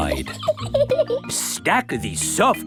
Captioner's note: laughs